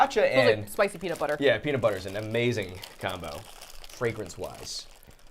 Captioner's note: none